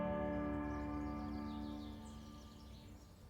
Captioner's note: birds singing